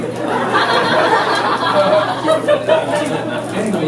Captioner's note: sound of people scurrying out of the way